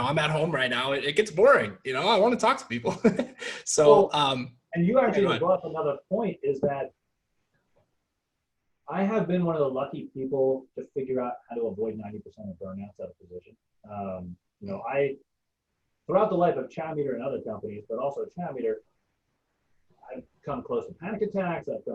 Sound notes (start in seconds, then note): 4.1 laughing